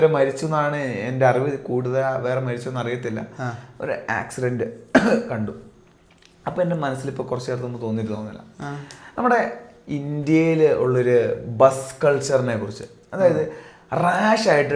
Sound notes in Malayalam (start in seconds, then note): 4.9 തൊണ്ട ശരിയാക്കുന്നു